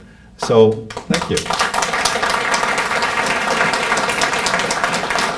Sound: audience applauding

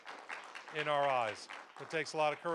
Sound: applause

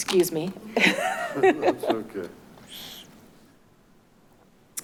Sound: clerk chuckles

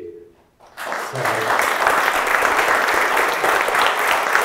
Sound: audience applauding

